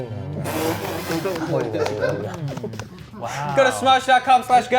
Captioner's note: laughing